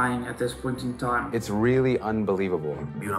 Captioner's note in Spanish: hablando en inglés